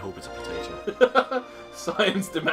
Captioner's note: laughs